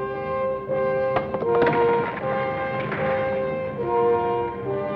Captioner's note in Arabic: طقطقة الصخور